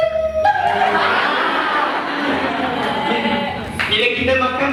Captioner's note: imaginary audience applause